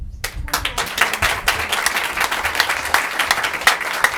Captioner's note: applauding